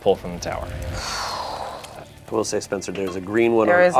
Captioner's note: exhales